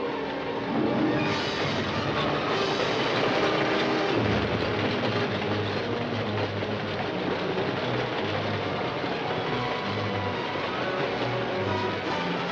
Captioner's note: dramatic music; train roaring; dramatic music